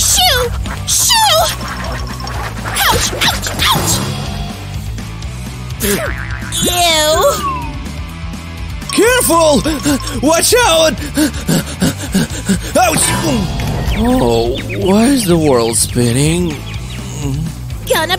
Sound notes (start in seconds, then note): 7.1 screaming at the top of her lungs